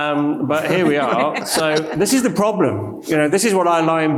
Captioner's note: panelist and audience laughs